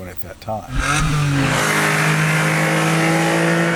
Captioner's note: engine Roars